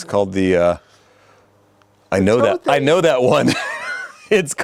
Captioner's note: laughs